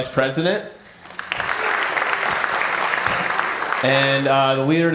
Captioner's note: applause